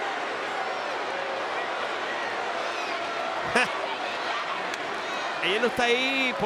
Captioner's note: applause; laugh